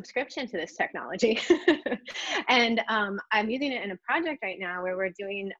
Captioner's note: laughs